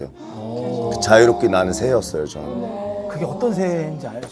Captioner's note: haha